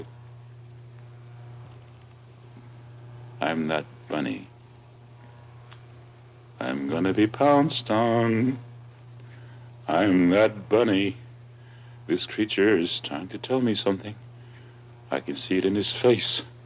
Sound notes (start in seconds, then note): none